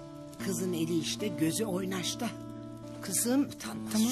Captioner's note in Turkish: none